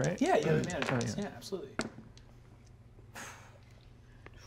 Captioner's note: dice clattering